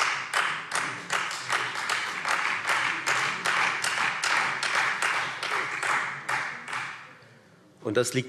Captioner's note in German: Beifall Freie Demokraten und vereinzelt SPD